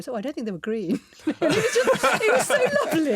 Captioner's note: everyone laughing